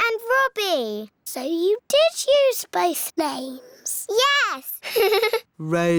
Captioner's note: laughs